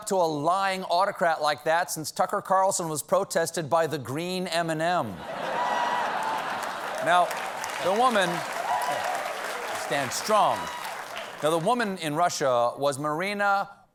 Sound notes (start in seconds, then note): 5.2 laughter; 5.4 applause